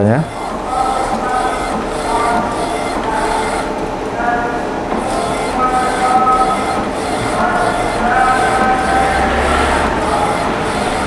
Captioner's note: printer machine sound; distant chattering; printer machine sound